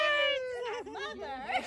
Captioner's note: laughing